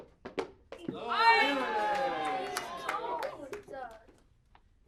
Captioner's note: people cheering